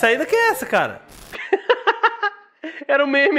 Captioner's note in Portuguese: Risos